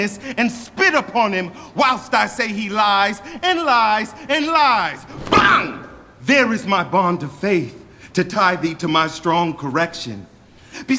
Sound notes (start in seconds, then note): 5.2 gage hits the ground